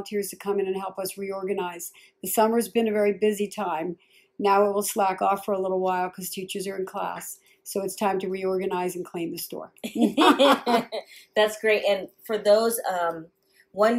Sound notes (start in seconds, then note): 9.8 both laugh